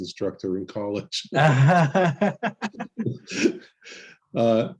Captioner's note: laughs